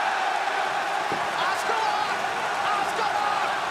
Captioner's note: crowd cheering